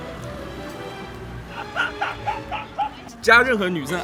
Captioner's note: A nice sounding laugh